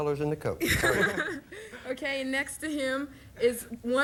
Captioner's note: audience laughing